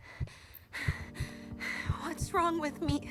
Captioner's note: heartbeats; Mischa gasps